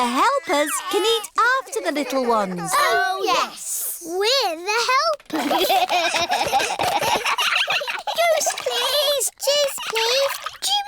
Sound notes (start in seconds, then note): 5.3 all giggling